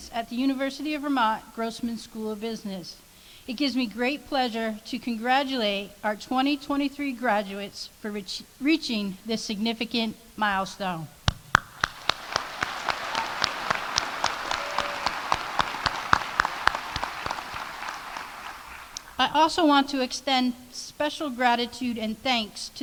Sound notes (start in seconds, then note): 11.4 audience applauding